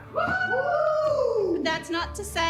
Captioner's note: cheering